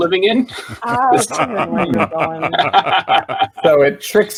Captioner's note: all laughing